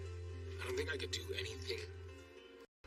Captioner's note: none